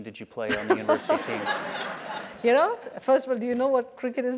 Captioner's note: laugh